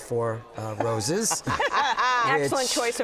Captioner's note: all laugh loudly